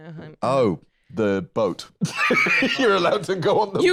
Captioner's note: laughs